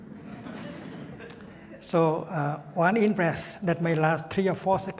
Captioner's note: laughter